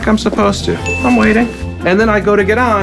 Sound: ding

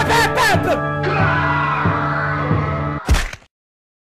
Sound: screams

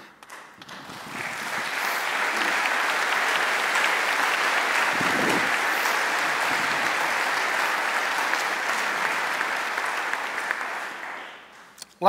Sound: applause

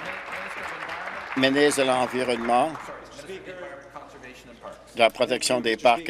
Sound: applause

